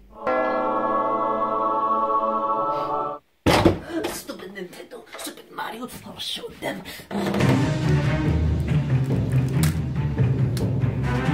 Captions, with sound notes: [angelic music] [door slams open] Stupid Nintendo. Stupid Mario! I'll show them! [dramatic music plays]